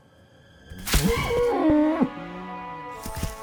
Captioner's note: Mukau bleating